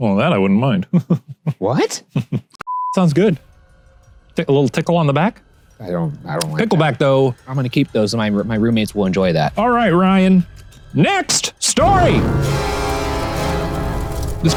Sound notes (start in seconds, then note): 2.6 beep; 11.6 dramatic music